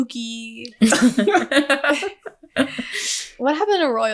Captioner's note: laughing